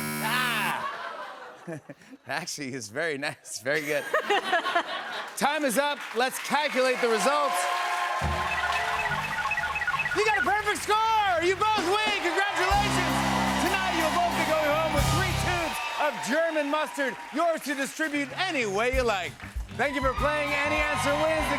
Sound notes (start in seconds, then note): 3.8 laughs